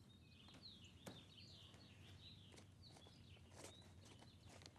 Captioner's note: birds singing